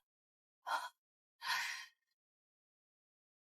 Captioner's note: sigh